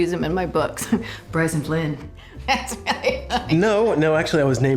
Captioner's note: drucinda laughing